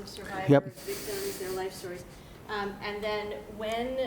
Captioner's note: voiceover